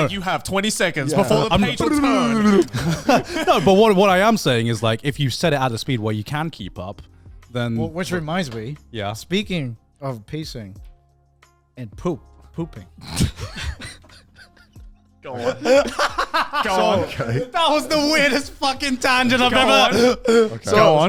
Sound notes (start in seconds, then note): 13.5 chuckle